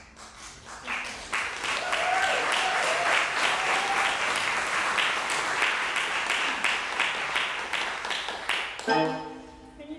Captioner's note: applause